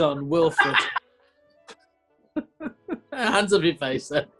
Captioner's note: laughing